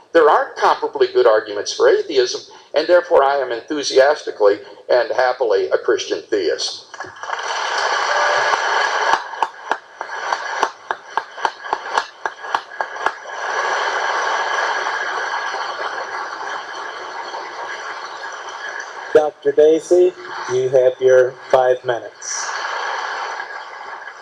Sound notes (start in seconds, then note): 6.9 applause